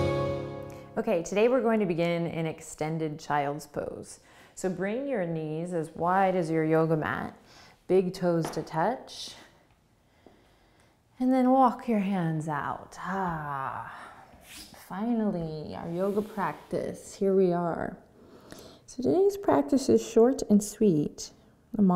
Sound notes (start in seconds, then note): 13.7 sighs